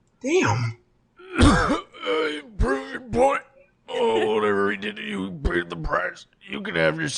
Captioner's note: coughing